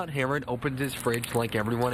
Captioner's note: nat: fridge opening